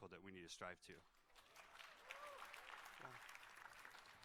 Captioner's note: applause